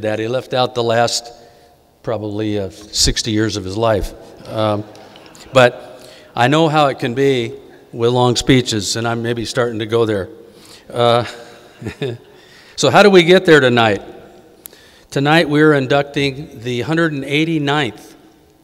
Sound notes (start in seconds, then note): 4.2 audience giggling